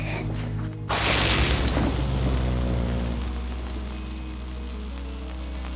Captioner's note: electric sparking